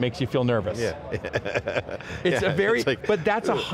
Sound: laughing

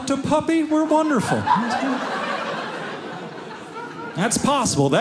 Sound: audience laughing

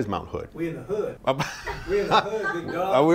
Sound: laughing

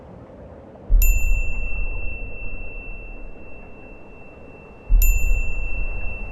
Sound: wind blowing; beep

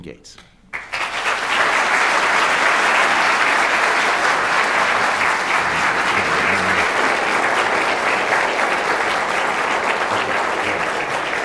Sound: applause

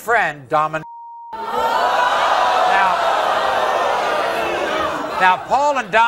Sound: audience groaning

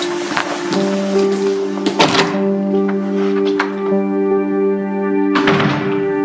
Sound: door opens and shuts

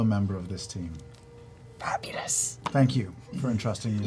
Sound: strained

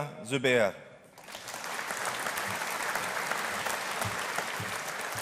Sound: audience applauding

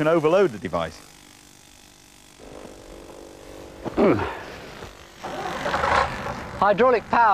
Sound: sighs

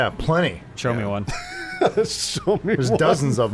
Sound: laughs

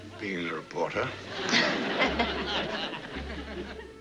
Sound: laughter

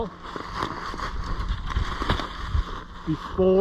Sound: leaves crackling

